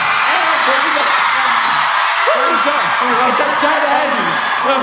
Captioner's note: screaming